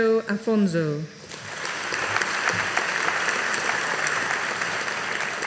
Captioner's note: audience applauding